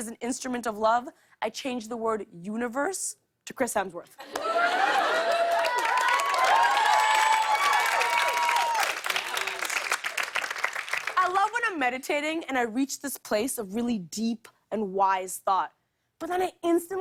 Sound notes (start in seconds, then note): 4.2 cheers and applause